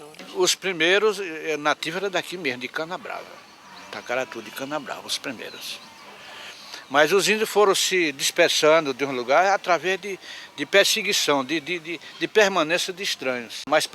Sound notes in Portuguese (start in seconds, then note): 5.4 Canto de pássaros